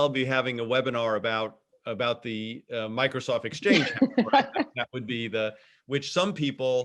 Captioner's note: laughs